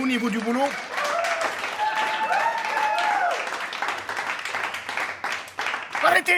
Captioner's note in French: Applaudissements